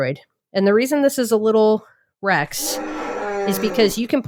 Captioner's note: dinosaur roar